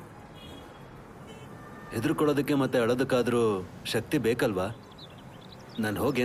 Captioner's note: scoffs